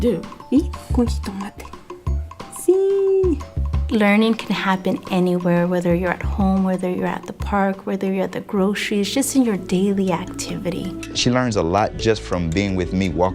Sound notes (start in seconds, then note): 0.2 speaking in Spanish; 2.5 speaking in Spanish - Si